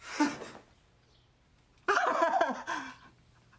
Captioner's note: sobbing